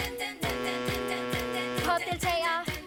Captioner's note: ship blows horn